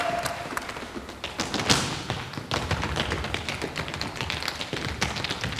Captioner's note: footsteps thudding